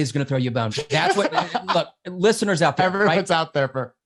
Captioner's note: laughs